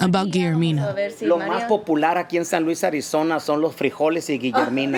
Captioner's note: foreign language